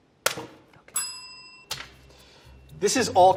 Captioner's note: bell ringing